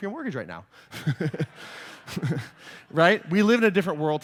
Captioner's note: laughter